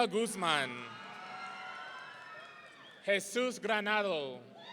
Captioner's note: audience cheering